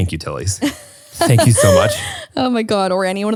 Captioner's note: laughs